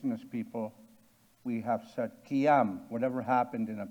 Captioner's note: speaking in Cree